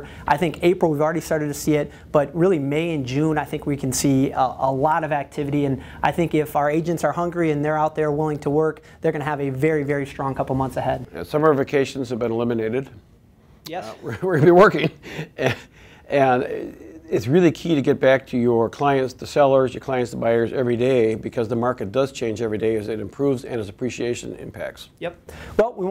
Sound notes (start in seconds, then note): 14.0 laughter